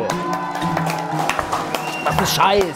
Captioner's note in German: Jubel, Applaus